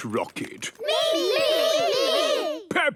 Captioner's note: calling out in turn